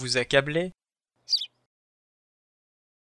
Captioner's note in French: chant d’oiseau